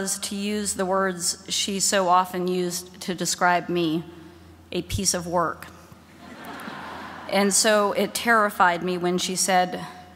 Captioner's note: laughter